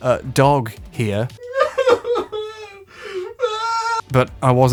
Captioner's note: pathetic sobbing